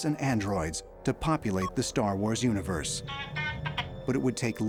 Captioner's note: beeps